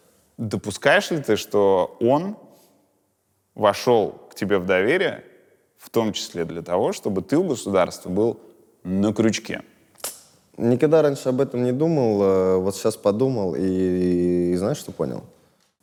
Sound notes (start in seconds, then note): none